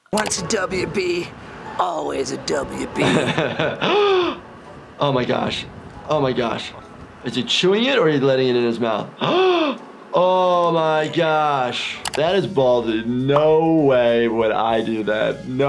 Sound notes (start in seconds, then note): 3.0 laughing; 3.9 gasps; 9.2 gasping